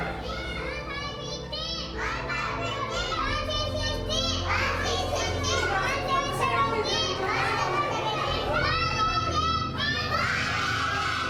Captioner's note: students reciting